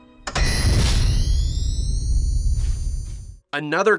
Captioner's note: Proton pack charge up sound